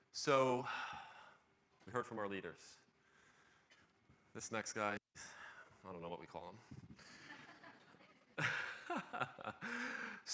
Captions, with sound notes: - So we've heard from our leaders. This next guy, I don't know what we call him. (laughs)